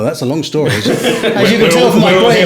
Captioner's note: all laughing